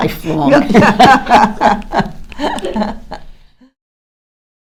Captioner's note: laughter